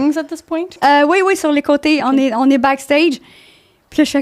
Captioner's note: in french